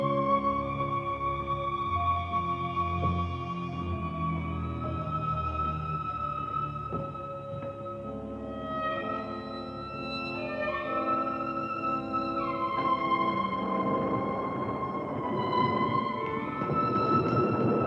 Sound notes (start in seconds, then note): 3.2 mysterious music continues; 13.6 thunder crashing